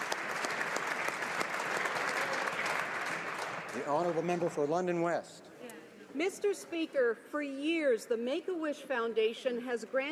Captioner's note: applause